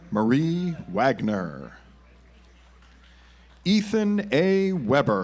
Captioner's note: audience applauds